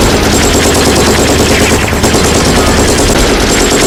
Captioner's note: gunshots firing